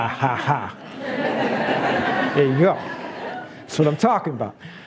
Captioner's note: laughs